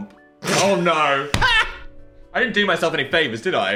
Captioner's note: Dan laughs